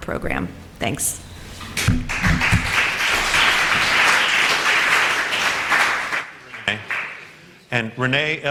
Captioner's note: applause